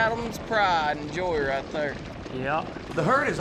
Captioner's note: hoof beats